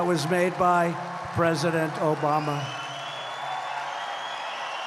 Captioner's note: applause